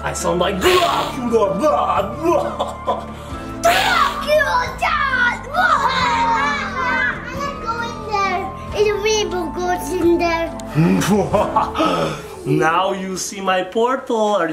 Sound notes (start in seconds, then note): 2.2 laughs; 3.6 imitates laughing; 10.8 laughs